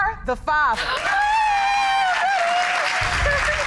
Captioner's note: all cheering